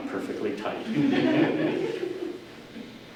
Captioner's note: audience laughter